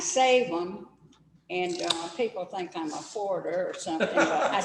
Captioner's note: laughter